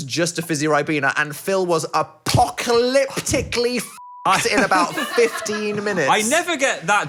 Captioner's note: beep